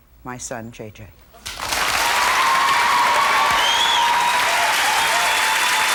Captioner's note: audience applauds and cheers